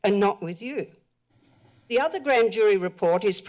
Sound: pause

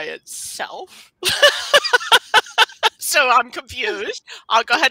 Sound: laughs

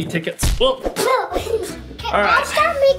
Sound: laughs

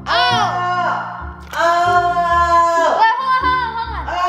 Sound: shouts

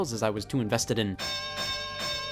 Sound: bell ringing

